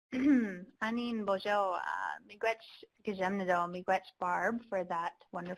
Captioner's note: speaking foreign language